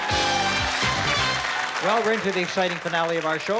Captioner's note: theme music playing; cheers, applause